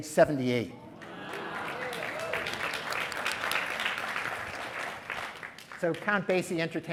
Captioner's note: applause